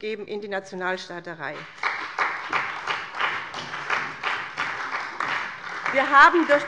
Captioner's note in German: Beifall bei dem BÜNDNIS 90/DIE GRÜNEN und der CDU